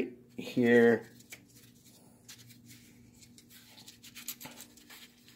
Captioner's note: paper rustles